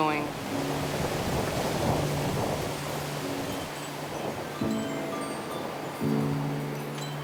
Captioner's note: piano music; wind whooshing